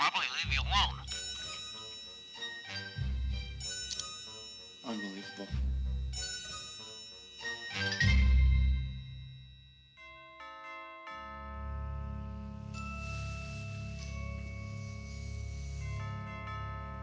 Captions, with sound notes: They'll probably leave you alone. - Unbelievable. (door bell ringing) (ominous music)